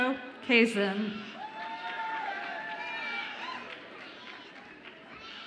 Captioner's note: audience applauds and cheers